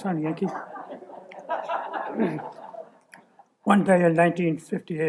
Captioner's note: laughter